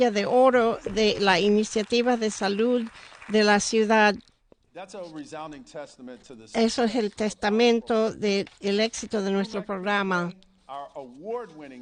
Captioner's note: applause